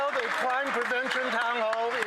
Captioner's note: cheering and Applause